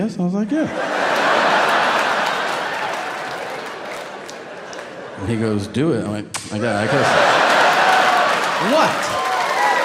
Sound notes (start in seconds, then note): 0.6 audience laughing; 6.5 Tom making kissing sounds; 9.6 audience cheering